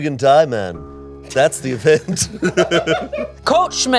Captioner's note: laughs